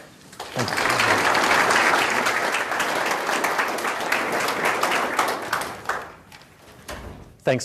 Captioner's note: audience Applause